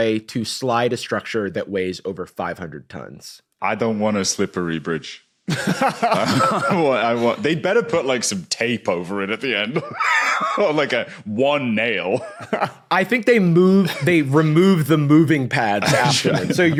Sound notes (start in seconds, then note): 5.5 laughs; 9.7 wheezes